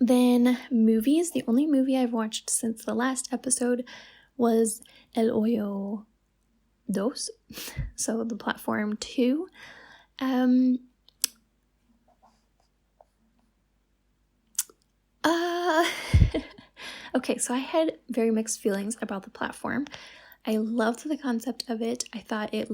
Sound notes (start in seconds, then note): 11.7 silence